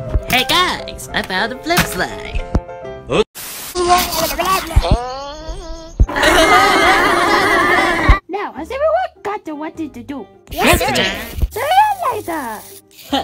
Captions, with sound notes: Hey guys! I found a FlipSlide! (Laughter) Now, has everyone got to what to do? Yes! So long, later!